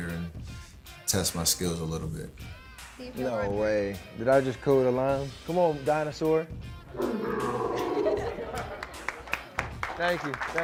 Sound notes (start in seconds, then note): 6.9 dinosaur roaring; 7.8 crowd applauding